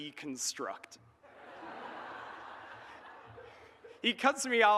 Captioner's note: audience laughs